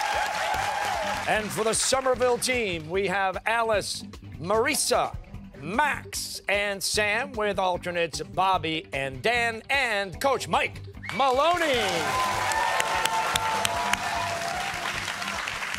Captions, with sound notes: And, for the Somerville team, we have Alice, Marisa, Max, and Sam, with alternates Bobby and Dan, and coach Mike Maloney. (cheers and applause)